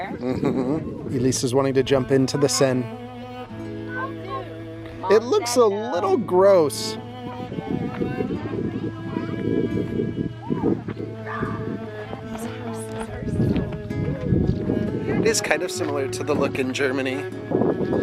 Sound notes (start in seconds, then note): 7.8 children murmuring; 7.8 french folk music continues